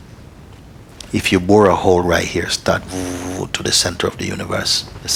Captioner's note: sound of digging